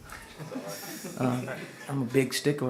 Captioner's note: audience laughs